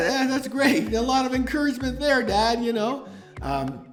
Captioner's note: laughing